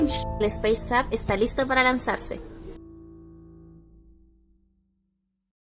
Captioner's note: speaks in a foreign language